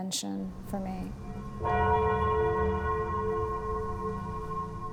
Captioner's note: bell dongs